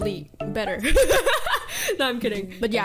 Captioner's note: bahahahah